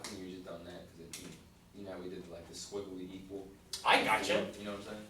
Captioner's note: voiceover